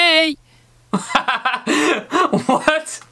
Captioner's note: laughing